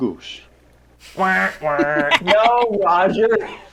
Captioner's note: honks; laughs